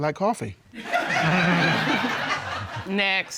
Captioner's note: laughter